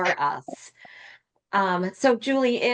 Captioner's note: laughter